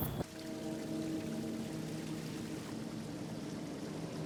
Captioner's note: rapids footsteps; water splashes